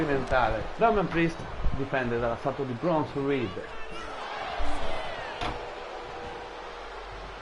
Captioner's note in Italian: Applauso